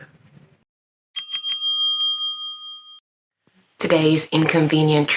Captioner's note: bell rings